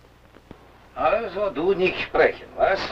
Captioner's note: foreign language